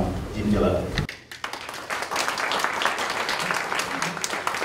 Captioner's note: applause